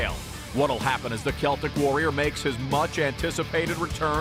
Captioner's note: none